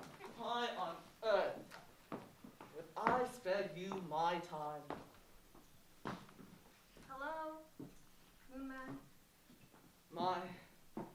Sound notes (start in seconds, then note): none